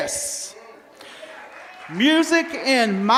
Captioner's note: applause